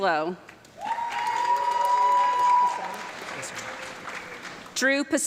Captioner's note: audience clapping and cheering